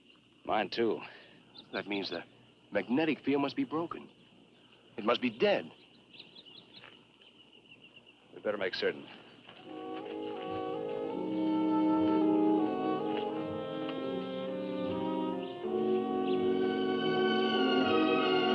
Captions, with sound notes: - Mine too. - That means the magnetic field must be broken. It must be dead. - We better make certain. (gentle orchestral music) (birds chirping)